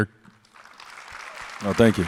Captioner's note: audience applauds